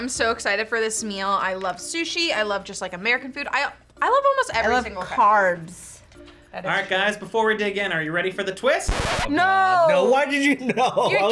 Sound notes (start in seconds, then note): 8.8 record scratches